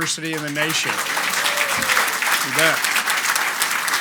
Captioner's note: audience applauds